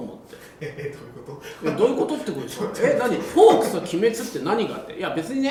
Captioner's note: laughs